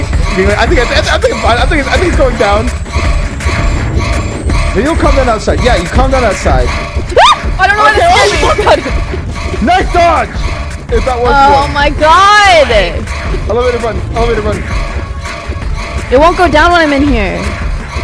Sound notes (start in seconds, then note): 7.1 screams